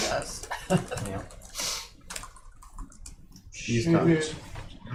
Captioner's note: laughter